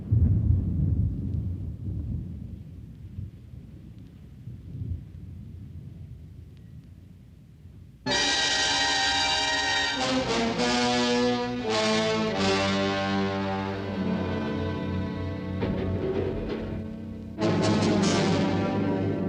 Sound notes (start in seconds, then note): 8.0 dramatic instrumental music; 15.7 wood clattering